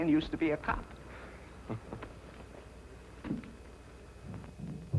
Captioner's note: chuckles; pounding of jungle drums